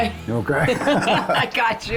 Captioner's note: chuckling